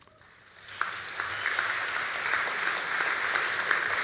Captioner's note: all applauding